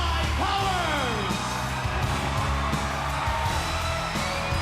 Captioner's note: audience cheers